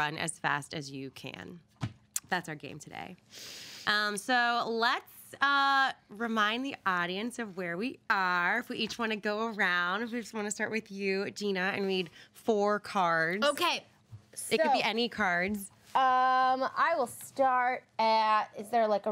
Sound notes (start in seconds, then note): none